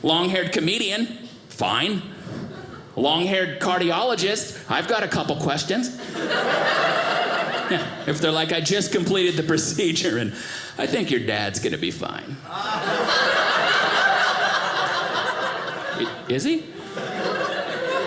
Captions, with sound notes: Long haired comedian, fine. Long haired cardiologist, I've got a couple questions. (audience laughing) If they're like, "I just "completed the procedure and I "think your dad's gonna be fine." (audience laughing) Is he?